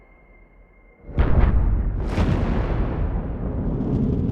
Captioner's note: missile blasting